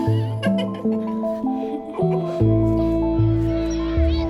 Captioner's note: both giggling